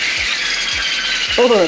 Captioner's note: mushroomy squeals of joy/despair